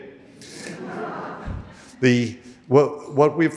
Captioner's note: audience laughing